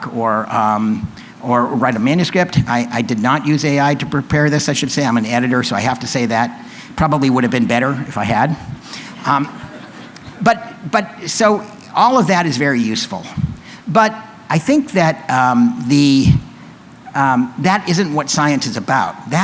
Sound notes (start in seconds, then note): 9.2 laughter